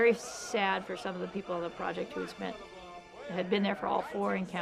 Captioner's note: people laughing